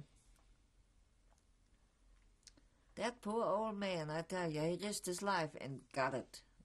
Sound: pauses for 3 seconds

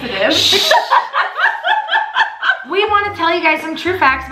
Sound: laughs loudly

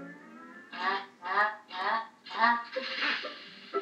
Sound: whirring

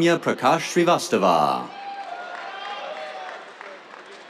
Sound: cheers, applause

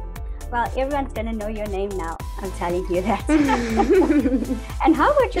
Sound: laughs

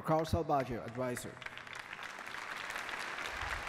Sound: applause

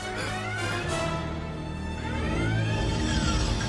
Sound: alarm blares

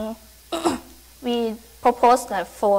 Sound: clears throat

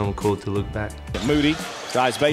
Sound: voiceover

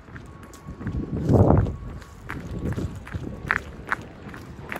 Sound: wind blowing

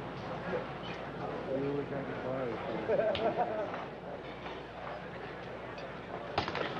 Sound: patients chattering; patients laughing

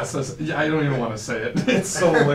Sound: laughs

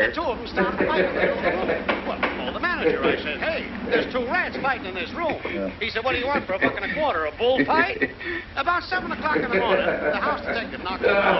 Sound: man chattering on radio; potter chuckling

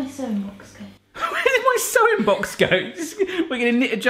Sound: laughs

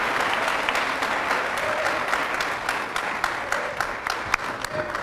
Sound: applause

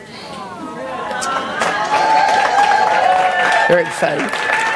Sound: congregation applauding

